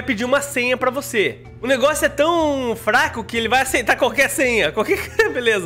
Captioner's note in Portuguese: risos